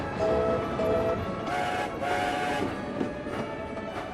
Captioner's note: ivo hugh and skarloey whistle